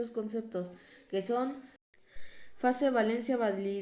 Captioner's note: I inhale